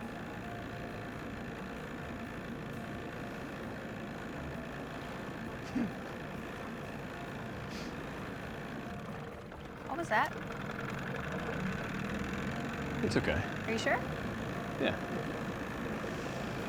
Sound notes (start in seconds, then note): 0.1 engine purring; 5.6 giggles; 8.7 engine slows, sputters; 11.7 engine sputters